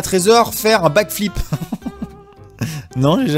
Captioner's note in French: rire